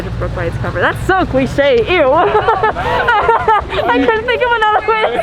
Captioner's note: woman laughs